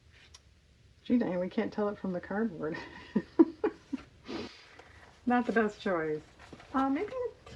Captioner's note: laughs